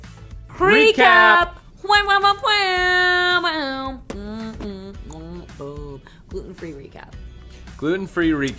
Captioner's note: vocalizing nonsense noises